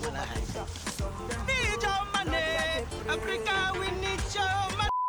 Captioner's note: singsong